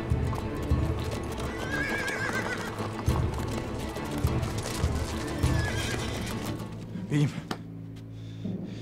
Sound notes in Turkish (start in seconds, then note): 1.4 At kişneme sesi; 3.3 At nalı sesleri; 4.9 At kişneme sesi